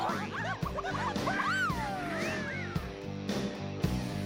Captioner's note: wolf Whistle